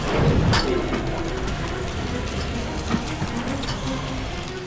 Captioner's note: gunshot